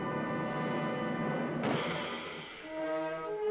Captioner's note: slamming